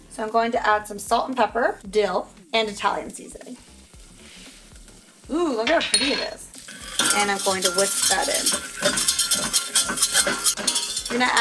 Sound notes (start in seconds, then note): 3.7 pot sizzling; 8.5 whisking ingredients